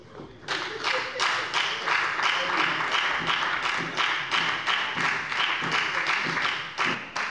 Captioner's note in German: Beifall bei der FDP